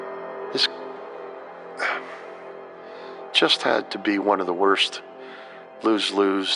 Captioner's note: sighing